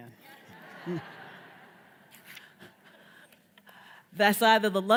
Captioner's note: audience laughs